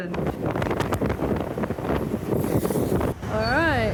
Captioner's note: wind against camera